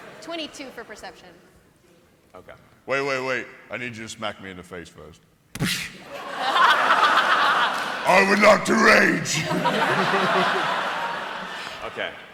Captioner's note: impact